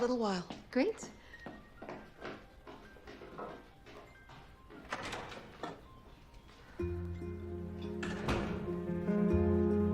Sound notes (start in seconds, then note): 4.9 door opens and closes; 8.2 mysterious music